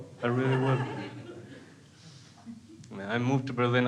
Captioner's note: crowd laughs